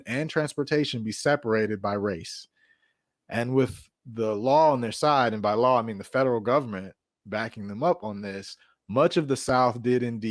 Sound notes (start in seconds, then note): none